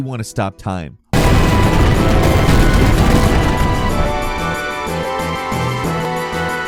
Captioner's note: loud exploding; tense music